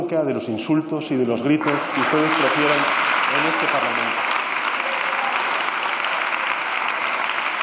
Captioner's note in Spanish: Aplausos